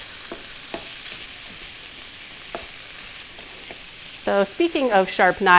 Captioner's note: meat sizzling and spoon stirring in pan